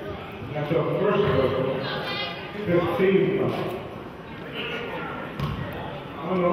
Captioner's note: murmurs